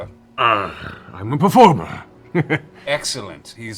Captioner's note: slight chuckle